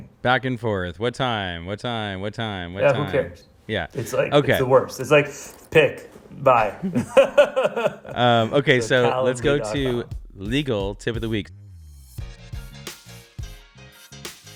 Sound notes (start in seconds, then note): 6.7 laughs; 11.9 upbeat music